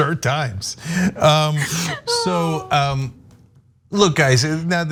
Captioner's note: laugh